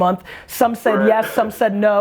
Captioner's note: laughs